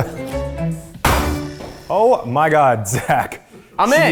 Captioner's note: coconut banging